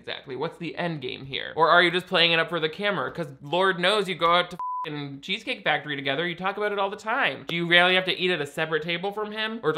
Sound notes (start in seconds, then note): 4.6 beeps